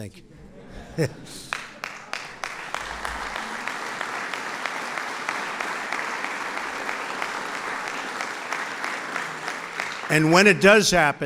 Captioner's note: laughter and applause